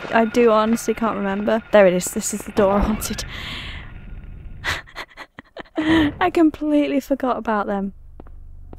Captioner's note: laughing